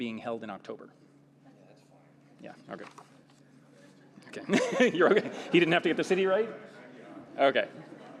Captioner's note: laughter